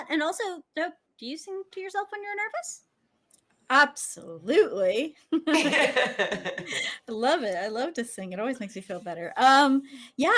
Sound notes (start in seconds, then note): 5.3 women laughing